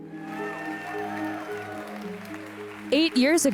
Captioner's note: audience cheering